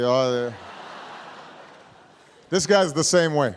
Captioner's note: laughter